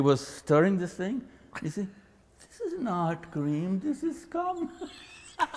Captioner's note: both laugh